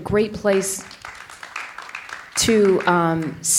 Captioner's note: audience applauding